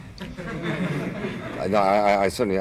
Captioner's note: audience laughs